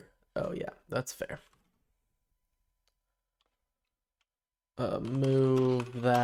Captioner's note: silence